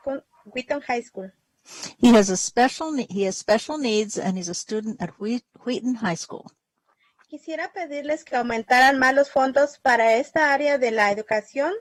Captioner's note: speaking spanish